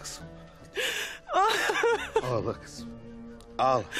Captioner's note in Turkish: Ağlama sesi